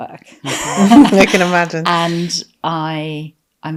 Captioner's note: laughing